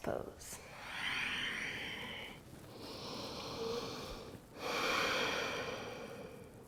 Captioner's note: breathing